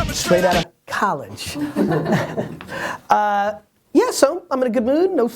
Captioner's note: laughs